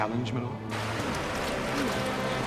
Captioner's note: water running